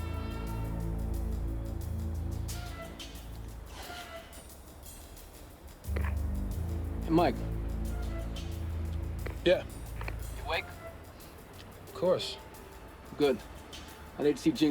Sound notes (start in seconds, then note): 3.7 sighs